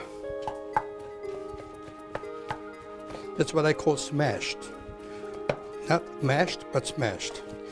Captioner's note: chopping